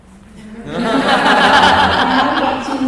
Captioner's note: class laughs